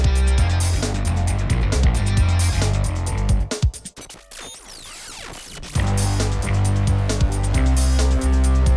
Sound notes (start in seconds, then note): 3.9 digital distortion; 5.6 funky dance music